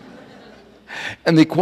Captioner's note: audience laughing